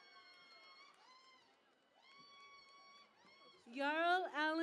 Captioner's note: cheering and Applause